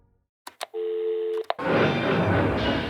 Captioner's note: click; dial tone